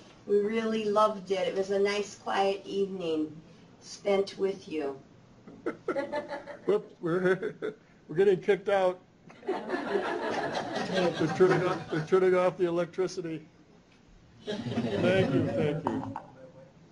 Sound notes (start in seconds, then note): 5.4 chuckles; 9.3 laughter; 14.4 laughter